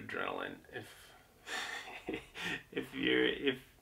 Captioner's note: chuckles